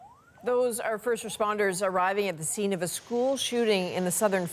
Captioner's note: alarm